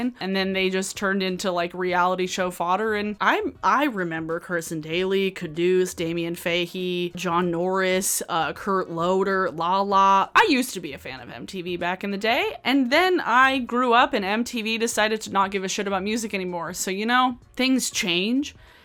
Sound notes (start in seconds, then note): none